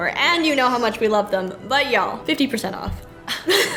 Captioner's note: laughs